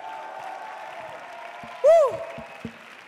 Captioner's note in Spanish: Aplausos